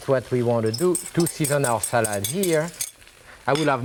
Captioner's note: whisk clinking